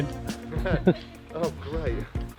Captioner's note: laughter